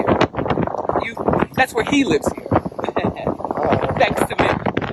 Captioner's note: laughs